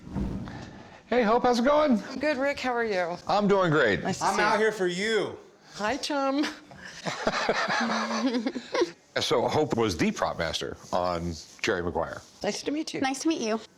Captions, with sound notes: Hey, Hope, how's it going? - I'm good, Rick. How are you? - I'm doing great. - "I'm out here for you." - Hi, Chum. [laughter] - So, Hope was the prop master on "Jerry Maguire." - Nice to meet you. - Nice to meet you.